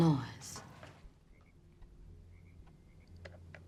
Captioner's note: clattering